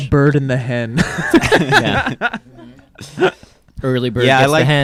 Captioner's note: laughing